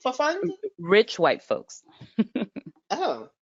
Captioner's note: chuckles